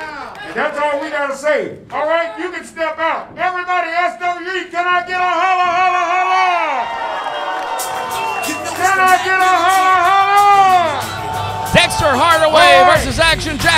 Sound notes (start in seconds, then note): 6.1 crowd cheering; 7.9 rap music